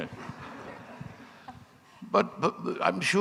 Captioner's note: audience laughing